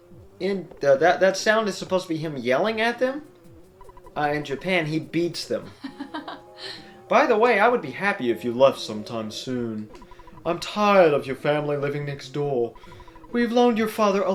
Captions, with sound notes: And that-- that sound is supposed to be him yelling at them? In Japan he beats them. (Laughs?) "By the way, I would be happy if you left sometime soon. I'm tired of your family living next door... We've loaned your father